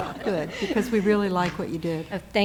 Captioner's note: laughter